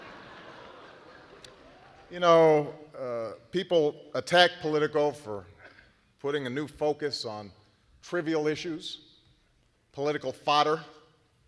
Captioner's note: laughter